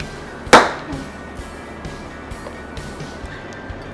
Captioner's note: balloon pops